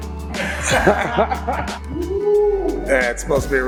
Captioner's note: laughing